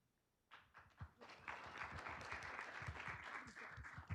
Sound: group clapping

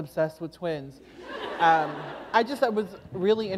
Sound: laughter

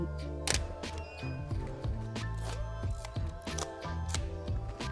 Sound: camera shutter clicks

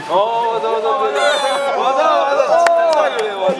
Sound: last stage: Crying with tears

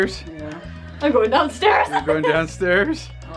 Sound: laughs

